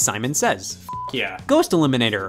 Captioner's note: beep